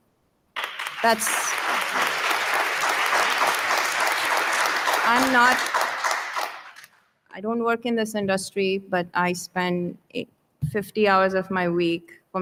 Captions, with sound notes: That's- (audience applauding) I don't work in this industry, but I spend 50 hours of my week